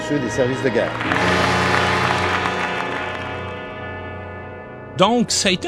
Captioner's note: applauses